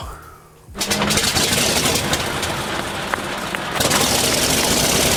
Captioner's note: airplane propeller creaking